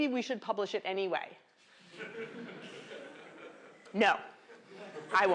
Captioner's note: laughter